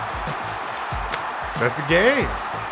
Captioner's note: fans roaring